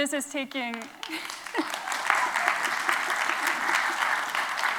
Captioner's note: applause